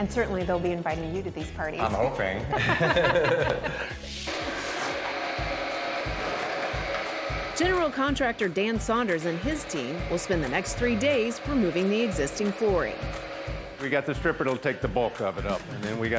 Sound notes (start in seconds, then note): 2.4 laughter; 4.8 engines whirring